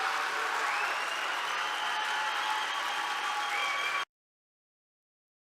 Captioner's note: applause